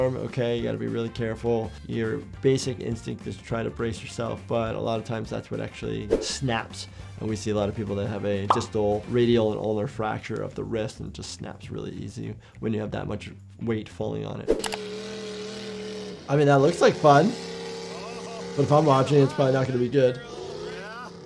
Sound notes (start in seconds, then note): 14.5 engine revving; 17.9 person laughs